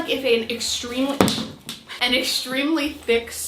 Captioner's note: boot thumping